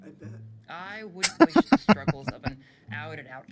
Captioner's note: laughing